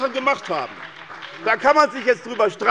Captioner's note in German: Beifall bei der SPD